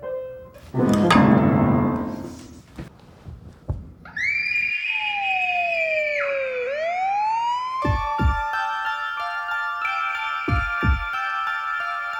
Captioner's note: child screaming; siren